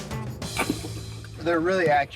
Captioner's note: gun thunks